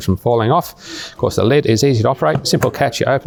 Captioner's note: lid clicks